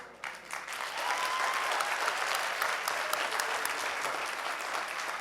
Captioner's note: audience cheering